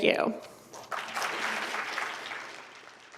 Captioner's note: applause